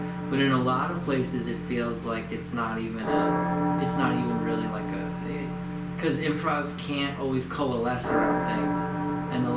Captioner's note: bell tolls